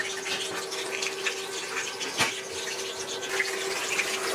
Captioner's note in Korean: 부글부글